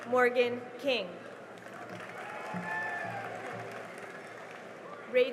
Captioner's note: cheering and applause